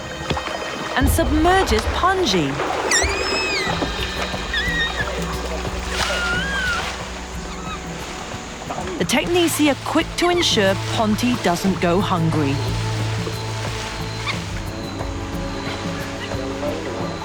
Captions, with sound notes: and submerges Pongi. (orangutan squealing) The teknisi are quick to ensure Ponti doesn't go hungry. (upbeat music)